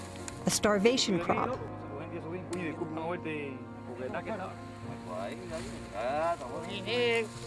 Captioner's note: speaking spanish